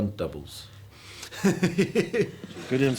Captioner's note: laughing